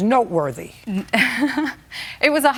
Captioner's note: laughs